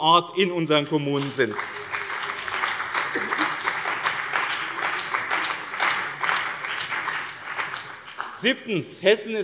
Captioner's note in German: Beifall bei dem BÜNDNIS 90/DIE GRÜNEN und der CDU